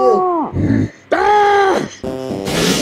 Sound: PEPPINO screams

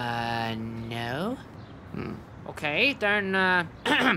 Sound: clearing throat

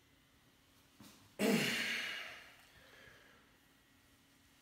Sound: grunting

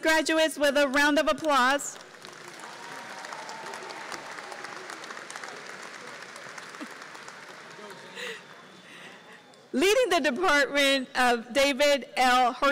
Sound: applause

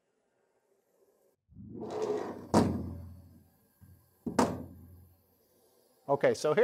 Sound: door Opens

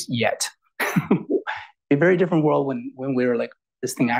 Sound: laughs

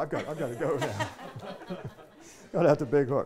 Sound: audience laughing

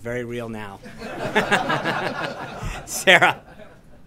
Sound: laughter

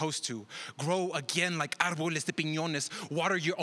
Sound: speaks another language

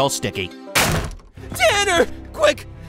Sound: door bangs

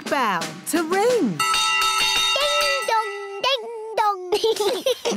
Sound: bell rings; laughter

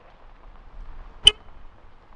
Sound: car Horn

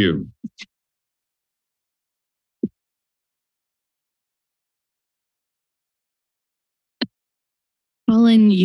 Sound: silence

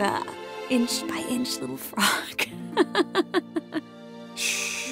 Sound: giggle

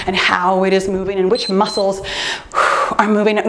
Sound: timer beeps

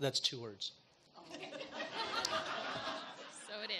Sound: audience laughs

